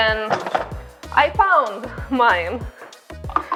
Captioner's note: laughs